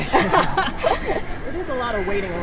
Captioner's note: both laugh